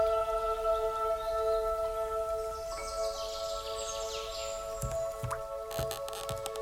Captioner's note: birds chirping and babbling brook